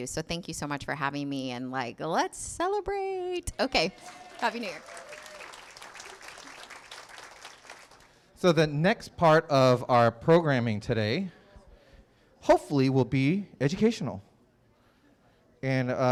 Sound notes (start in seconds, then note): 3.8 applause